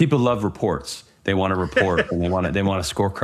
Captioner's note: laughs